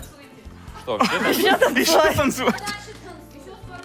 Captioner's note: voice-over